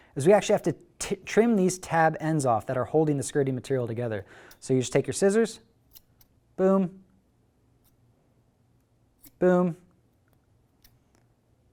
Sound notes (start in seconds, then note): 5.9 scissors snip; 9.2 scissors snip